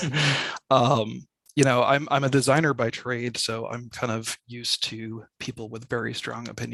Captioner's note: chuckles